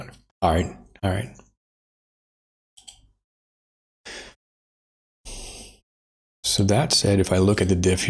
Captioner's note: blank Audio